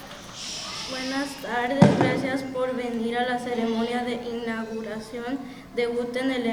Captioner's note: speaking in Spanish begins